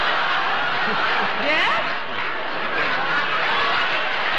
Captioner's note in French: rires